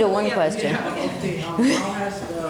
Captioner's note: laughter